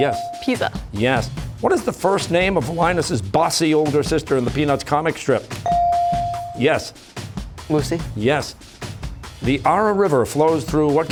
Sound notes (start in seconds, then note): 5.6 ringer dings